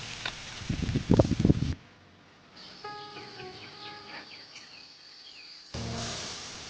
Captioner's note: sizzling